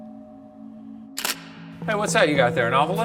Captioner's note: camera clicks